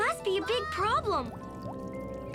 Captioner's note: water dropping